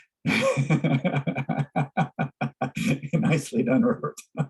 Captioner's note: laugh